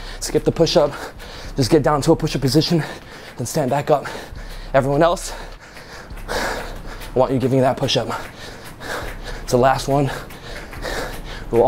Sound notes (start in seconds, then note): 6.0 exhales deeply; 8.8 exhales deeply; 10.6 exhales deeply